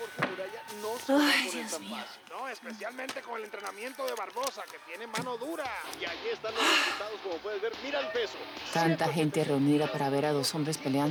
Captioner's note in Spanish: Suspiros; Voz en la TV